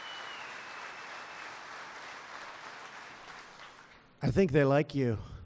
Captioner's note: applause